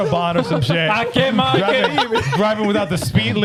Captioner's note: speaking In Foreign Language